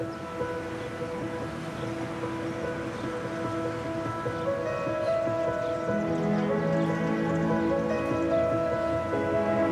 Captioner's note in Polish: spiew ptaków